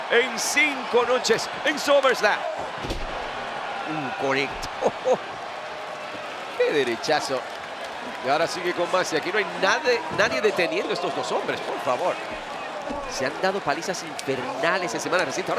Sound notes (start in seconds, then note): 4.6 laugh